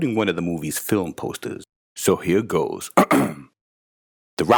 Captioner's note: clearing throat